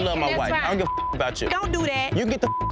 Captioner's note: beep